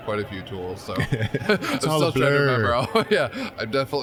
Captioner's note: laughing